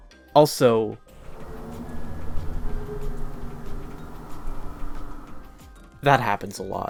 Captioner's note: sound of truck passing